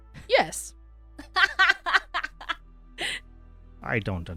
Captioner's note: laughter